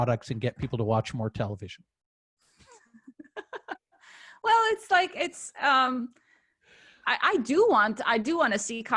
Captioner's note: laughter